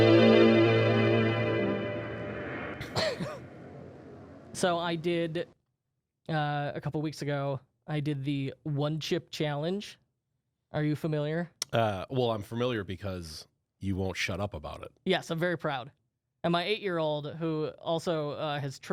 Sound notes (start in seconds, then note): 2.8 coughs